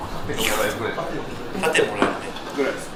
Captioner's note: laughs